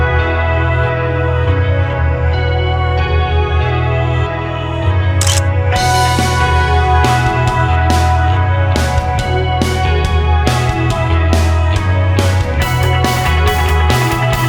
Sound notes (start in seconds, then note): 5.2 photo click